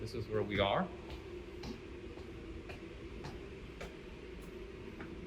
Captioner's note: footsteps